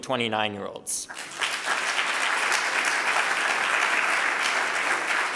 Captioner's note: audience applauding